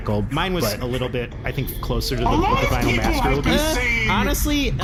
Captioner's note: shouting angrily